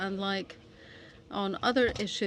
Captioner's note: speaking French